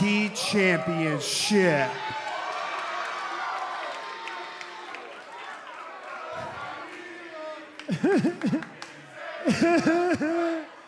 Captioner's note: cheers and applause